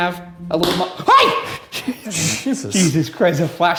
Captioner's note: flashlight thuds; shrieks